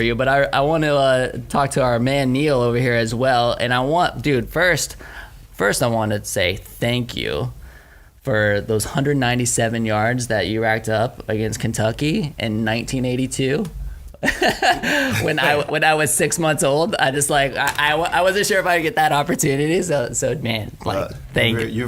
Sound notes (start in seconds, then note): 14.2 laughing